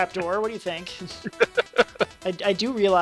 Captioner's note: laughs